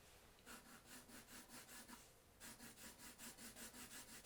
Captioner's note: pencil scratching